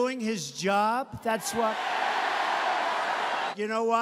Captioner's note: audience cheering